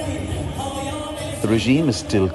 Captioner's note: chanting